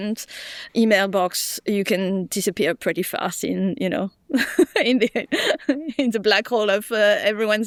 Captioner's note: chuckles